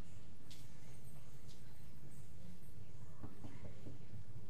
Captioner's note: knocks on door